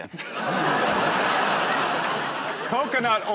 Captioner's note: laughter